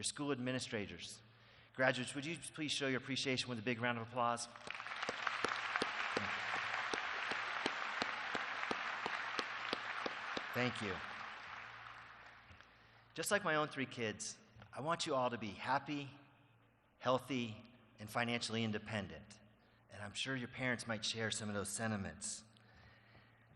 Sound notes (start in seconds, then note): 11.3 applause